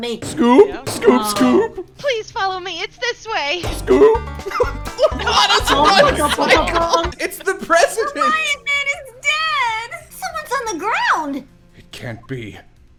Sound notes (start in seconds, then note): 4.4 laughter